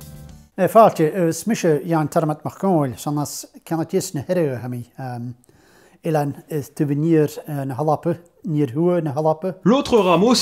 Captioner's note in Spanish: muchas palabras en gaélico escocés